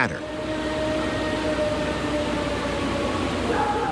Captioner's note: recording howling